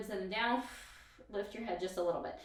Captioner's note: exhales breath